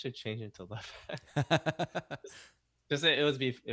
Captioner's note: laughs